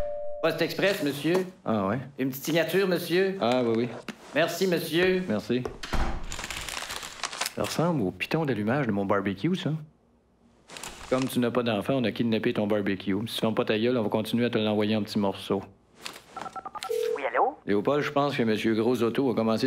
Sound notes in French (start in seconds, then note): 6.2 Froissement de papier